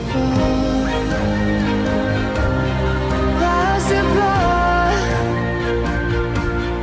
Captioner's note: whistling